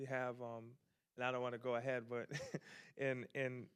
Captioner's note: chuckles